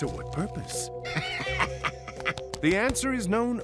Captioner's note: Two-Face laughing